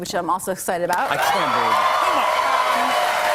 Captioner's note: cheers and applause